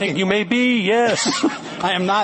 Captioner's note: laughter